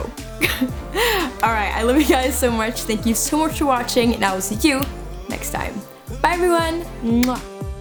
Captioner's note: kiss sound